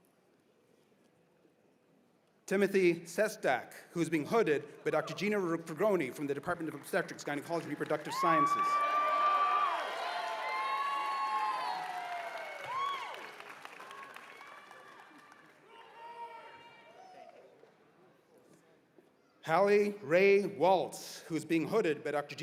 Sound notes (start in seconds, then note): 7.5 cheers and applause